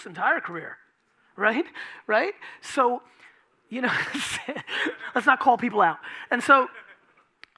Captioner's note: laughing